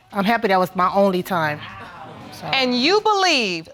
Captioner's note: audience exclaiming